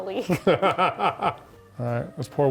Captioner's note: laughs